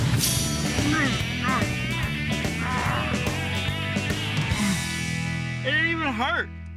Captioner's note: grunting